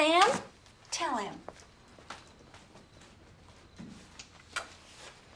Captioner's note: insects chirping